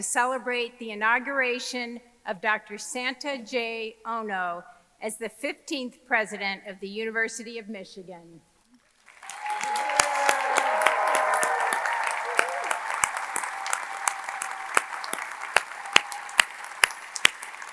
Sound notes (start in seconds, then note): 8.8 audience clapping; 9.0 audience cheering